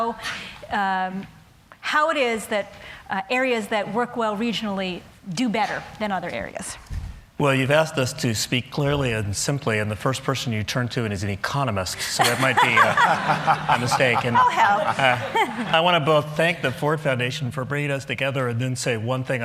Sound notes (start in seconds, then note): 12.1 laughter